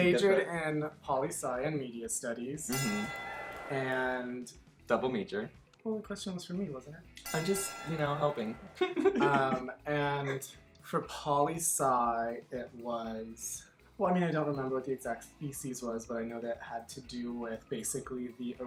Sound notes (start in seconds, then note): 7.2 bell ringing